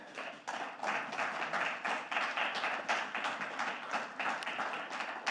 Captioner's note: audience clapping